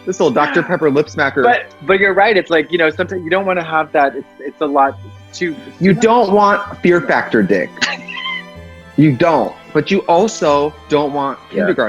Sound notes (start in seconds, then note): 7.1 laughs